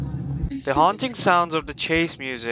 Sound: creepy giggle

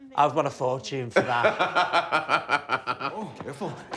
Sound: laughing

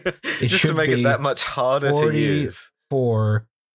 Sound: laughter

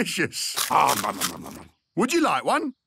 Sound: crunching

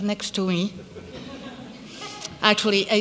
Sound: laughter

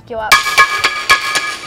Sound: clanging

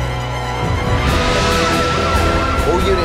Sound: sirens wailing

